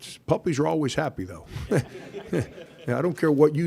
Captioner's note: audience laughter